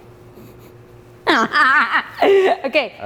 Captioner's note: laughs